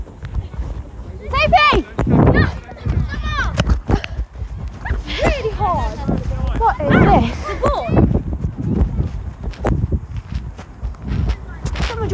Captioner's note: excited noise